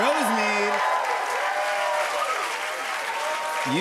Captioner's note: cheers and applause